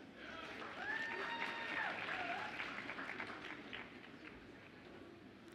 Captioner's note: audience applauds and cheers